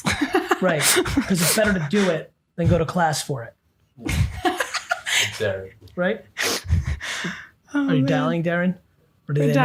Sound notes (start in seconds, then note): 4.0 laughing